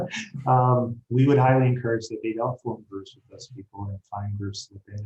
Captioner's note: speaking faintly